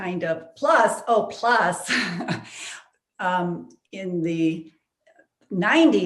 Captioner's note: chuckling